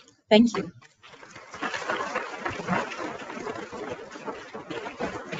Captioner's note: people clapping